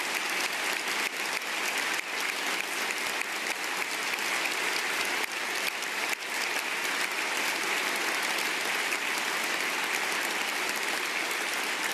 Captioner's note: applause